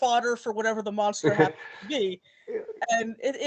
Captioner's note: laughing